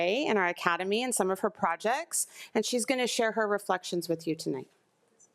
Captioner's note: none